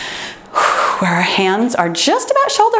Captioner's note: exhales